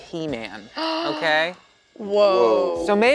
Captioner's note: gasps